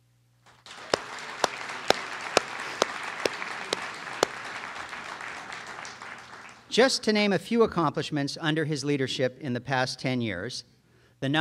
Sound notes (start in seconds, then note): 0.4 audience applauds